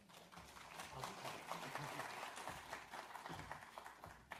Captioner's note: audience applauds